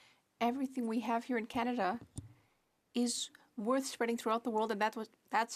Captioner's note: speaking French